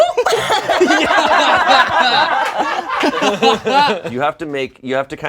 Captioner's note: all laugh